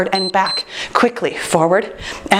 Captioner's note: timer beeps